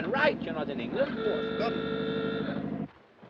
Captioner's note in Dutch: claxon van voertuig toetert